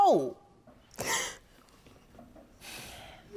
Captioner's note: sobbing